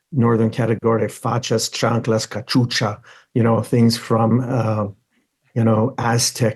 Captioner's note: speaks in foreign language